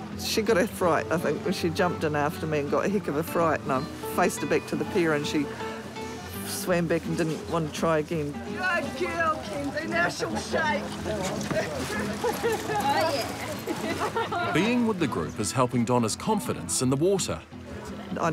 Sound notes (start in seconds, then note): 9.2 laughs; 13.3 laughter